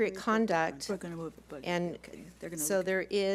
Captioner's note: quiet chatter